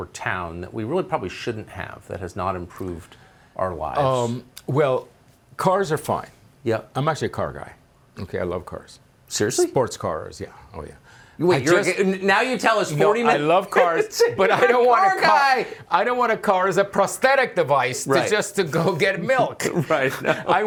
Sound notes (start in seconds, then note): 13.2 laughing; 19.5 laughter